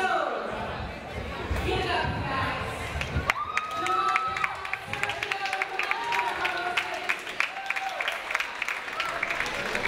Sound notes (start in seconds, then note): 3.2 audience applauds